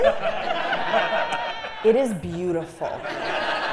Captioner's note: laugh